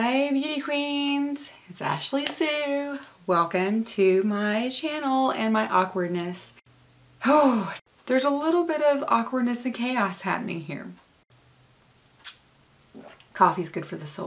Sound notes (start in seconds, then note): 7.2 sigh